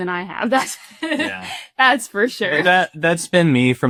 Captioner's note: laughs